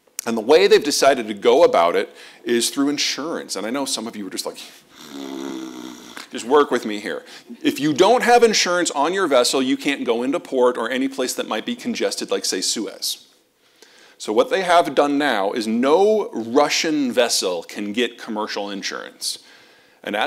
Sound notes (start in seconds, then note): 4.9 snores